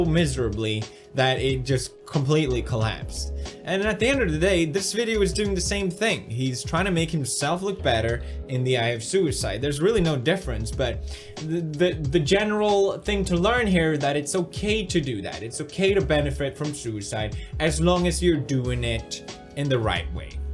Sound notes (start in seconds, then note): none